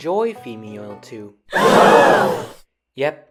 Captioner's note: crowd gasp